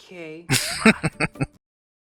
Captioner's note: laughing